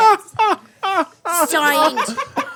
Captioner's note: laughing